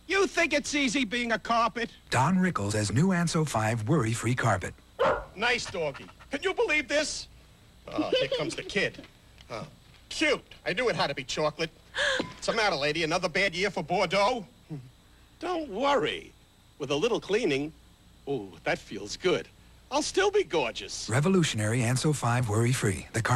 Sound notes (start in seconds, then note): 5.0 dog barks; 7.9 kid giggles; 8.2 Rickles groans; 9.3 slight groan; 12.0 woman gasps